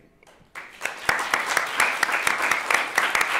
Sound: applause

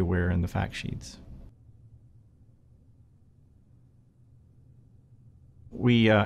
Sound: silence

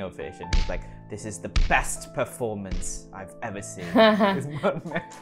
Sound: laughter

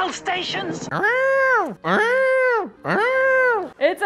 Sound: imitating a siren

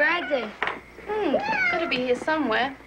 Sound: Antigone meowing

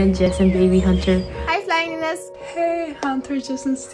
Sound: in foreign language

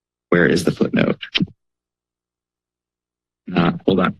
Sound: pause

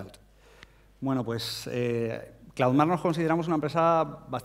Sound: speaking spanish

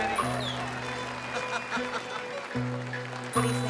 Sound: laughter

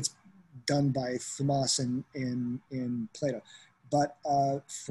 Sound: non-english speech

